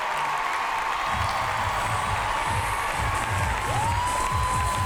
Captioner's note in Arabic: هتاف; موسيقى رقص